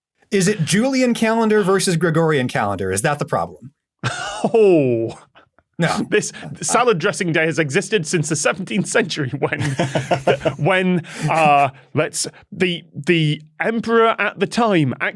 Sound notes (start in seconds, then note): 5.8 chortles; 9.6 laughs